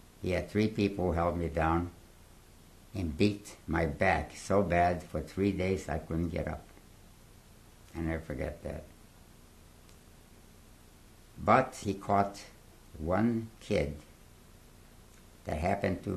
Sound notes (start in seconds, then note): 8.8 pauses for 3 seconds